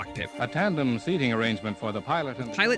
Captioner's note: radio Announcer